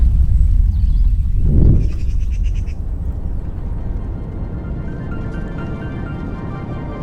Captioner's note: wind whooshing; gentle thoughtful music